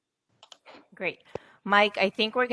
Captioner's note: mouse clicking